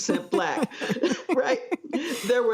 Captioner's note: laugh